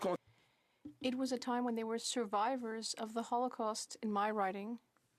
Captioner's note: speaking French